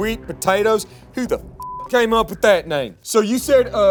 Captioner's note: beep